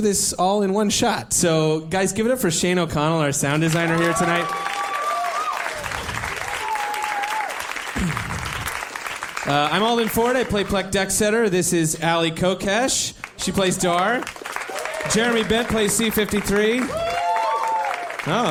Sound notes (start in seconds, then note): 9.4 applause, cheering